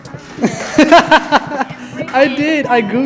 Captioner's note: laughing